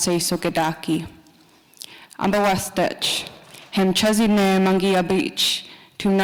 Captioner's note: continues speaking Nakoda language